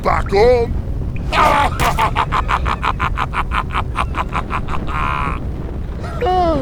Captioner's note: laughs hard